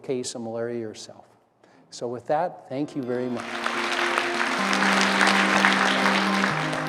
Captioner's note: applause